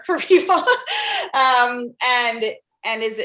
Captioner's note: laugh